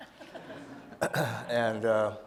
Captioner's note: audience laughing